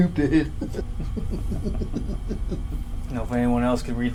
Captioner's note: both laughing